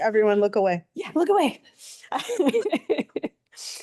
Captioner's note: laughs